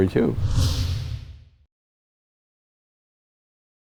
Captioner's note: screen whooshing